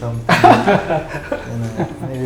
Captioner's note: laughs